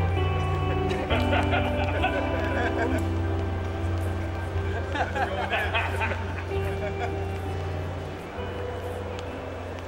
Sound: laughing

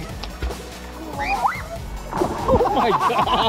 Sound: screaming; laughing

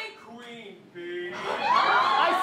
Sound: audience cheering

